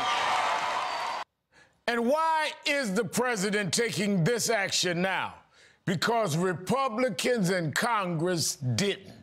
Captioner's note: cheers and applause